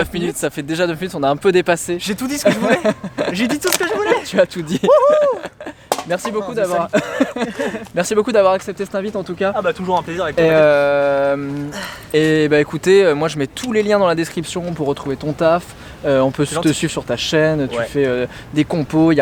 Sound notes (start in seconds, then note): 5.2 laughter; 5.9 can hits the ground; 6.3 laughs